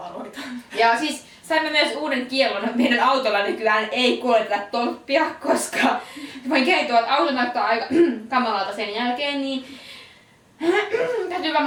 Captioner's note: cough